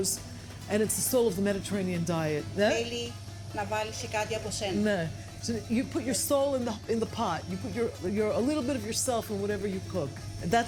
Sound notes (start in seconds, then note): 3.3 speaking greek